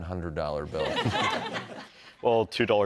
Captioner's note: laughter